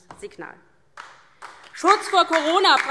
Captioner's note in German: Beifall DIE LINKE